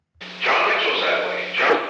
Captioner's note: Nixon tape audio